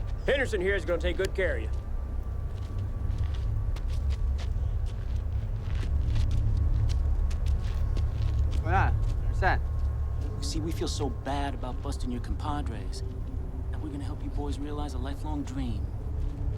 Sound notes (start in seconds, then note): 0.0 speaks Spanish; 8.9 drug runner speaks Spanish